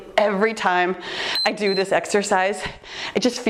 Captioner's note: timer beeps